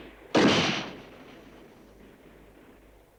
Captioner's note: gun bangs